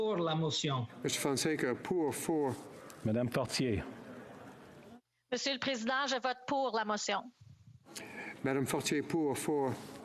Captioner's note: speaking French